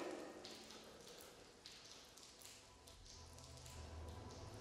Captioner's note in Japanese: 遠くで聞こえる雨音